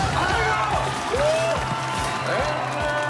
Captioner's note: cheering